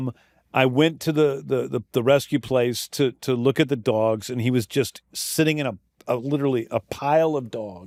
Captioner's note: none